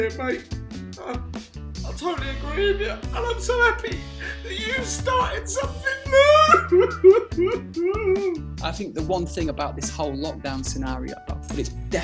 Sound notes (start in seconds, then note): 5.6 fake crying